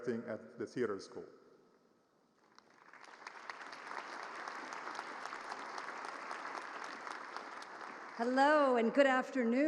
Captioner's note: applause